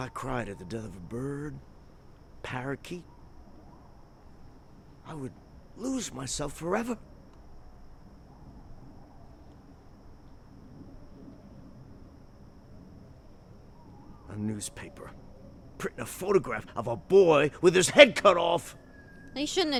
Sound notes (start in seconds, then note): 8.8 distant animals chattering